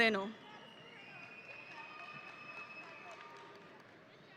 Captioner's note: audience cheering